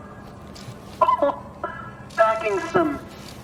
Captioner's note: laughs